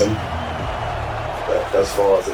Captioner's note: crowd Noises